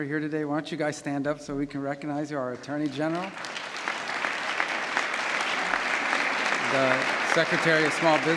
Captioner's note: applause